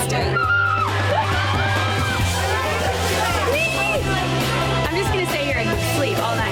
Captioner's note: upbeat music; women cheering